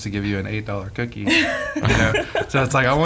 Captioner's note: laughing